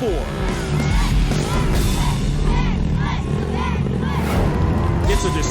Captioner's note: crowd chanting "backflip!"